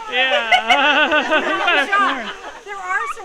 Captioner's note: everyone laughs